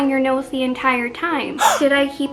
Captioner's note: gasp noise